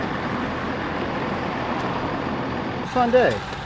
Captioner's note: engine revving